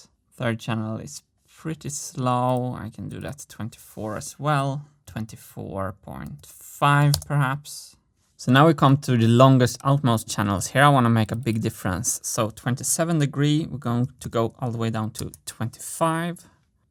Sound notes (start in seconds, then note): 7.0 keystroke; 16.1 mouse click